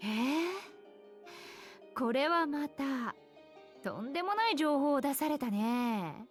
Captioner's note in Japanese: ため息; 息をのむ音